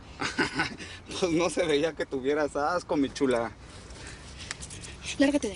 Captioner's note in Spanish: Risas